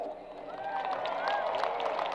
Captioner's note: crowd applause